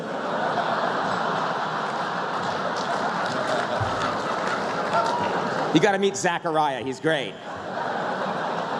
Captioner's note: laughter